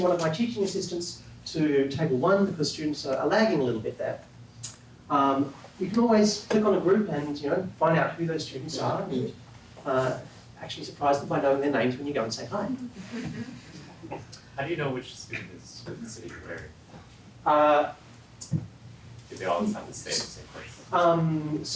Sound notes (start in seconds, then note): 12.6 laugh